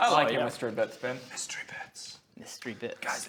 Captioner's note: whispers